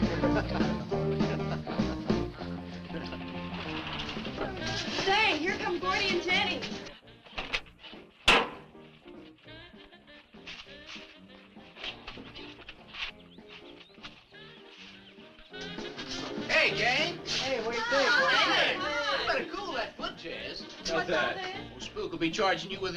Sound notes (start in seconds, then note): 0.2 man chuckling; 3.8 engine rumbles